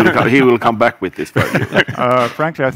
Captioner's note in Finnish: Laughter